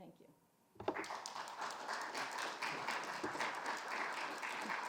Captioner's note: crowd applauding